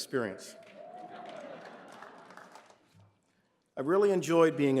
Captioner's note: applause